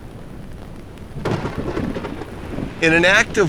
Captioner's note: thunder crashing